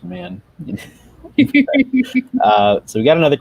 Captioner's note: laughing